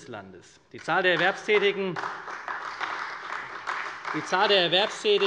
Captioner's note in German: Beifall bei der CDU und dem BÜNDNIS 90/DIE GRÜNEN